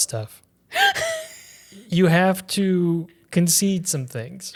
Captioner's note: wheezes